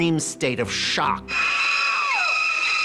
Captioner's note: screams